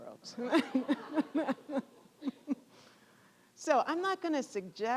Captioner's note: audience laughing